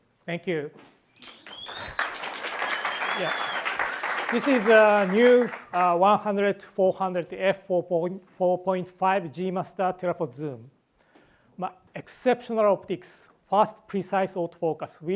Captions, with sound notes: - Thank you. (audience member whistles) (audience applauds) This is a new 100-400 F4.5 G Master telephoto zoom: exceptional optics, fast precise autofocus